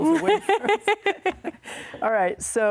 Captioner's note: laughs